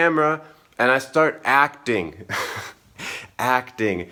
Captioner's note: laughs